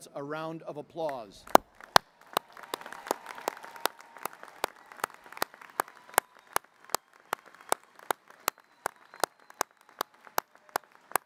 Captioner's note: applause